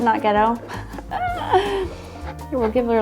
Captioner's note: laughing